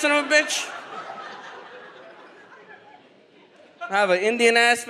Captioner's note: audience laughs